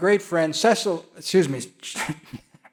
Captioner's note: laughs